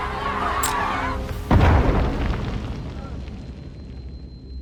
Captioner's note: explosion